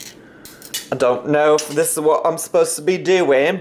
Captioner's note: imitates British accent